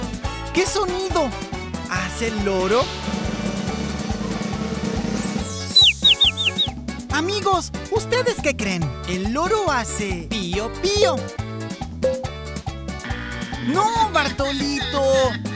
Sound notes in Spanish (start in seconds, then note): 2.8 Sonido de redoblante; 5.0 Sonido de pollito